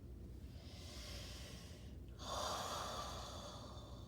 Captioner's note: breathing deeply